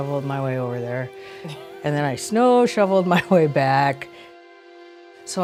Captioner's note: laughs